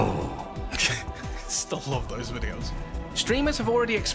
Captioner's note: laughs